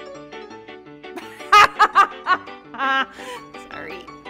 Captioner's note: laughing